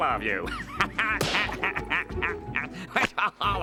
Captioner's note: laughing